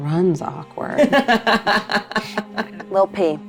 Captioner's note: laughs